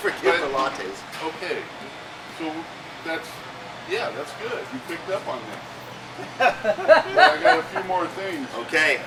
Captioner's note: laughing